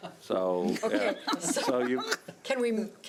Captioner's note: board members laughing